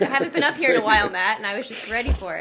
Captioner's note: laughter